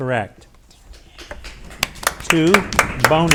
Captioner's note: audience applauds